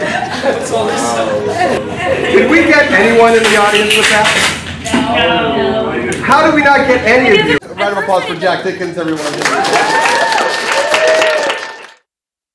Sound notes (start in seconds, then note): 9.0 applause